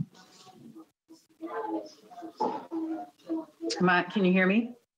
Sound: microphone shuffling

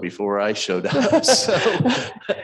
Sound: both chuckle

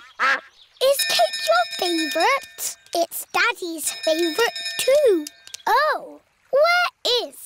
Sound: quacking; bell dinging

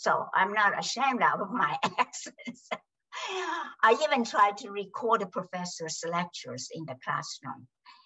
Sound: laughs

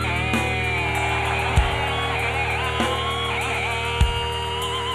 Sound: crowd cheering

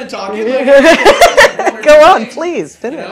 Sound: laughter

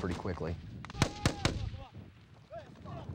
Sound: gunfire

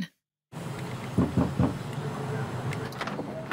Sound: knock on door

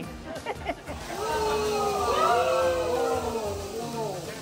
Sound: all cheering

